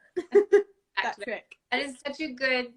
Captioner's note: laugh